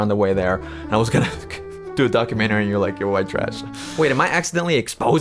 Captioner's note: chuckles